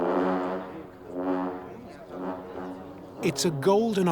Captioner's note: horns blowing